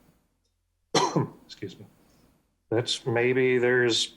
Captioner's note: coughs